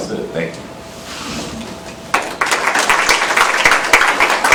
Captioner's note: applause